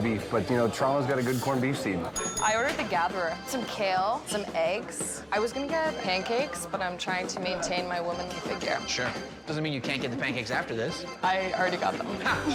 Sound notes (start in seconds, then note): 2.1 bell dinging